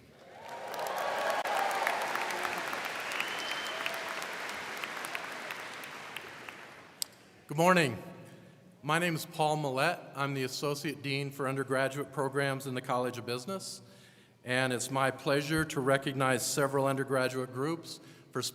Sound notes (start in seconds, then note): 0.0 crowd clapping; 0.0 crowd cheering